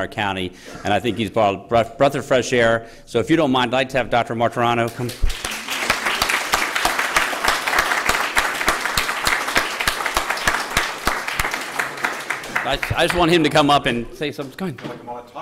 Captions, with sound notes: our county, and I think he's brought a breath of fresh air. So if you don't mind, I'd like to have Dr. Martirano come. (APPLAUSE) >>:I just want him to come up and say something. Come on.